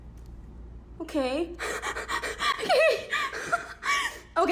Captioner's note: panting